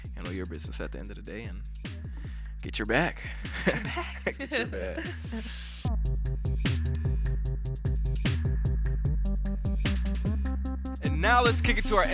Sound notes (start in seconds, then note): 3.5 laughing; 5.9 upbeat hip hop music